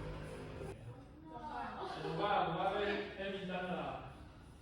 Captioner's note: sound of staff conversation